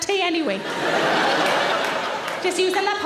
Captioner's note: audience laughing